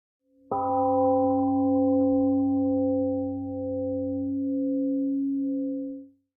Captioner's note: temple gong rings and fades